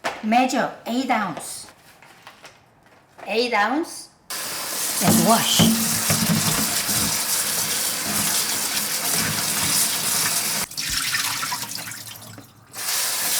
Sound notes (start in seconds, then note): 7.2 water running